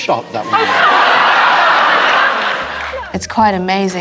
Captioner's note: audience laughter